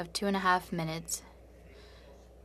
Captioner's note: speaking French